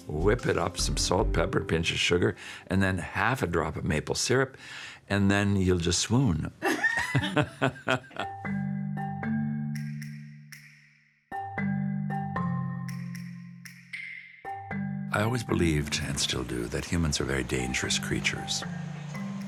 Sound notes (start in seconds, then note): 6.6 laughing; 8.1 light music